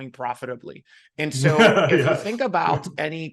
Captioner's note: laughing